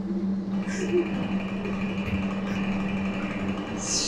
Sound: room creaking; actor whispering

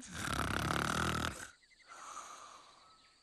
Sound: snoring

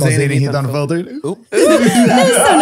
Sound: they all laugh

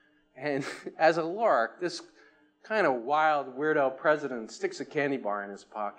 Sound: chuckles

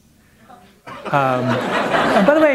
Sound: laughter

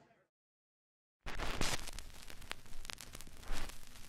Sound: crackling

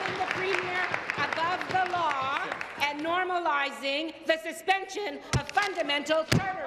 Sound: applause

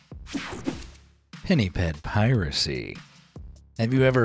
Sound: screen wipe whooshes

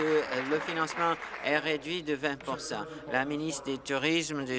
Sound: applause

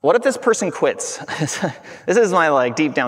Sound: chuckling

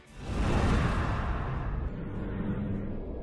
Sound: whoosh

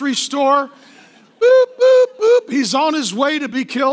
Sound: mimicking beeping

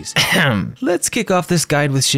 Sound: ahem

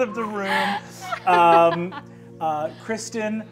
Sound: laughs

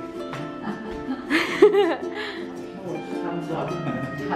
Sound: laughing

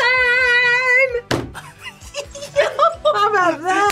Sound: laughs

